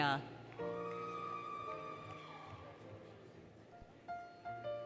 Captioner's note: applause, Cheering, Music